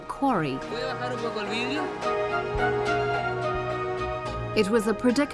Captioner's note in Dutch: man spreekt in vreemde taal